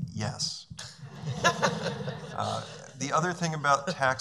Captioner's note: laughing